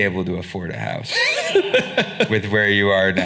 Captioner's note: laughing